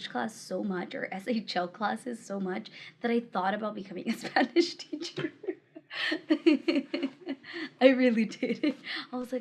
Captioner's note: laughter